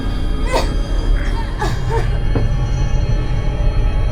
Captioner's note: Shelby choking